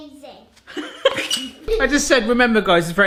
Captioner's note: laughing